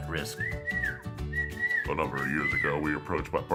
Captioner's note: whistles